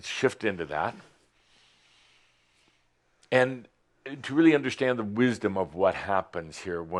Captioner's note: everyone takes a deep breath